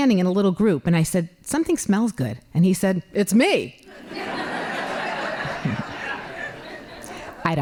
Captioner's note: laughing